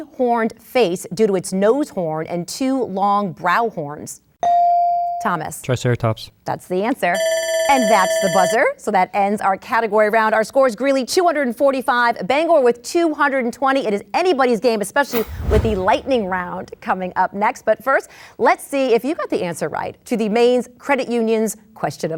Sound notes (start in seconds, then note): 3.7 bell dings; 7.2 buzzer sounds